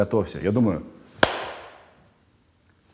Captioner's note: claps hands